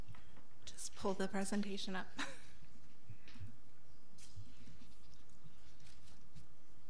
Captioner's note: laughs